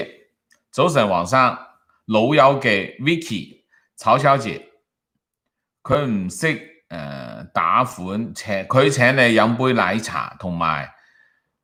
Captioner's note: Cantonese